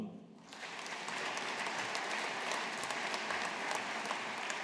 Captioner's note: audience applauding